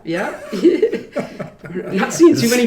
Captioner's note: laughing